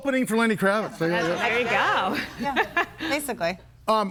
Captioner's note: laughs